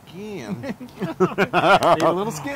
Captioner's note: laugh